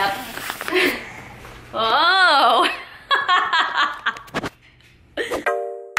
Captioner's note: laughter